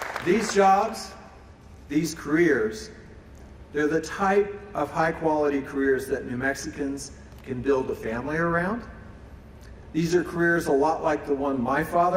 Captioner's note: applause